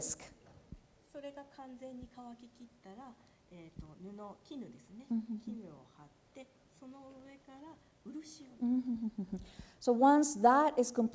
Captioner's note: speaking japanese